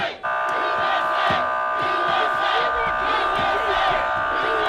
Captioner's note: police sirens buzzing